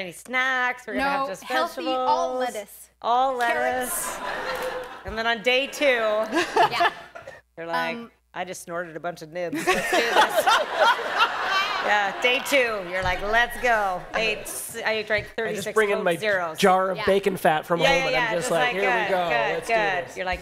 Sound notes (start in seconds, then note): 9.5 laughter